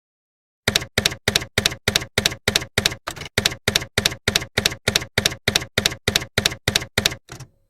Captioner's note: typewriter keys clacking